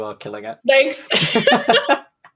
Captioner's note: laughs